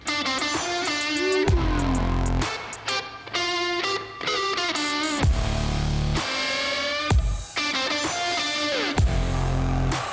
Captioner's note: applause